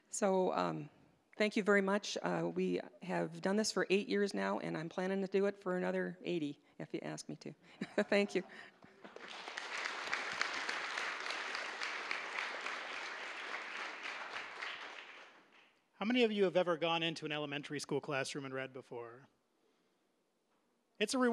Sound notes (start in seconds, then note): 7.8 audience laughing; 8.8 applause